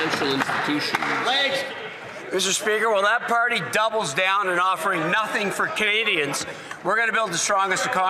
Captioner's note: some Applause